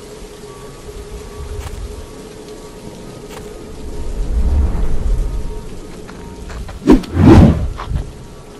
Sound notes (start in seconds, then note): 3.3 walking sounds